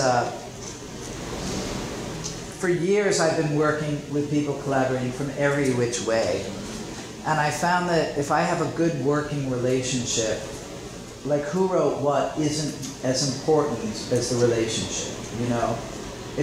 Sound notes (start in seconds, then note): none